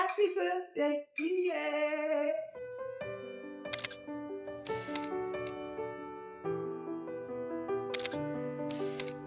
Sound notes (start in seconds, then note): 3.1 bright music; 3.1 camera snapping